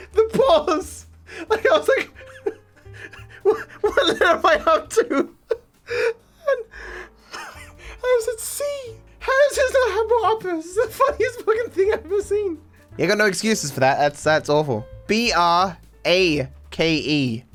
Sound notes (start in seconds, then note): 2.9 laughs